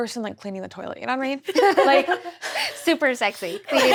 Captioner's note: laughs